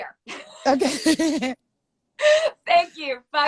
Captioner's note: laughter